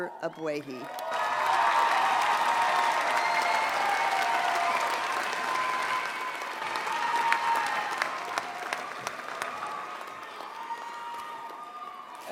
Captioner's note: applause